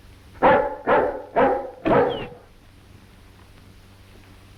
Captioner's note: dogs barking